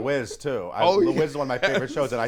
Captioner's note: laughs